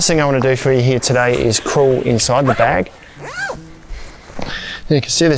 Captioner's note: zipper undoes